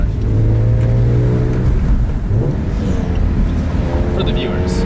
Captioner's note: engine revs